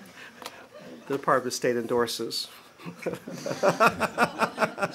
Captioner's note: laughter